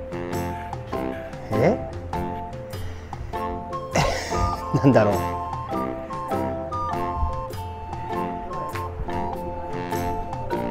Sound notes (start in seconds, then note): 3.9 laughs